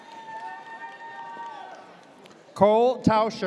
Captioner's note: audience cheers